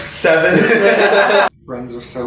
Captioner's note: laughs